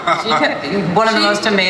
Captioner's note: laughs